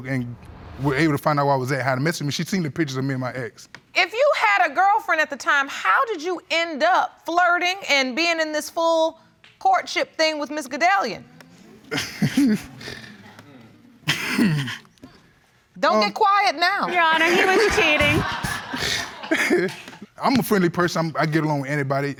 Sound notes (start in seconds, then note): 11.8 laughs; 18.6 audience laughing; 18.6 laughs